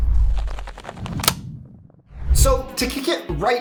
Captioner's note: logo clicks